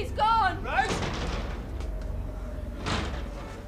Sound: door rattling

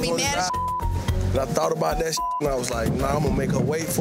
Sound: beep

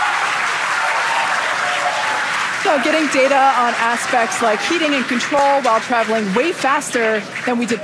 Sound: audience cheering

